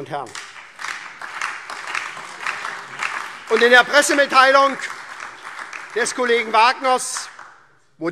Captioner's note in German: Beifall